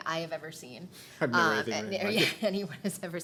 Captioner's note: mumbling